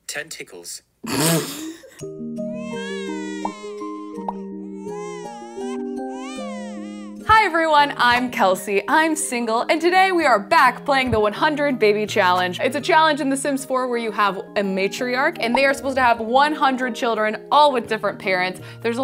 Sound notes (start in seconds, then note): 2.0 lullaby music; 2.4 baby crying; 2.6 girl laughs